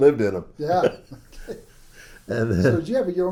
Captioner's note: laughs